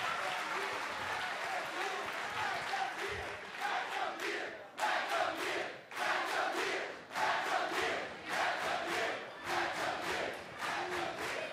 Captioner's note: crowd cheering